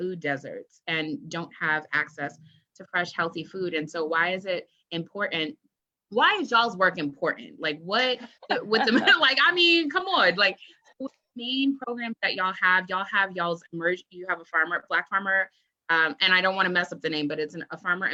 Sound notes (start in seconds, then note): 8.1 laughs